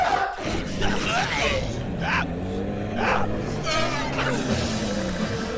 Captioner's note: zombie growling